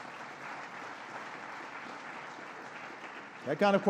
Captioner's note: applause